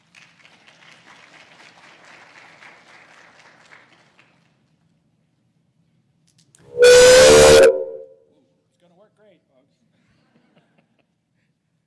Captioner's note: applause